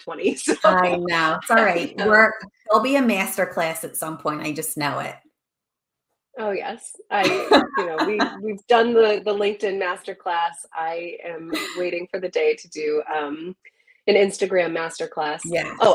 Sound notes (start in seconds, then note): 0.5 laughs; 7.2 laughs